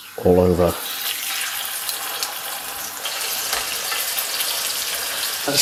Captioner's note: sizzlin